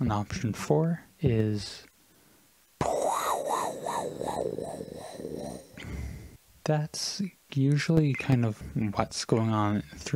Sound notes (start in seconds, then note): 2.6 making static noises with my mouth